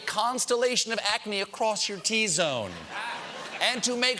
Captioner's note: laughter